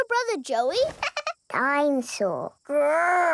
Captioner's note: chuckles